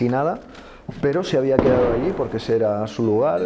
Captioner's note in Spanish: Explosiones cercanas